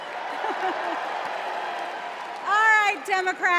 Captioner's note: applause